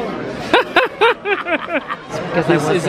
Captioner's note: pair laughing